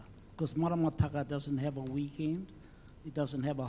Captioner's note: speaks in foreign language